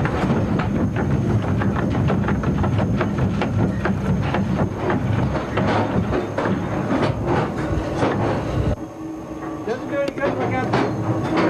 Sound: sound of machinery in motion

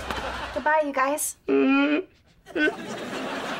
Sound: crying

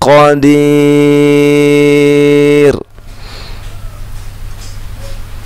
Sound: laughs

